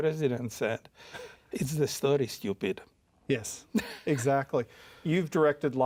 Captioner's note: chuckles